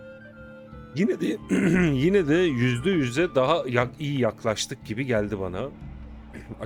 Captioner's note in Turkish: boğazını temizler